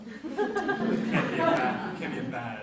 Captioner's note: audience laughs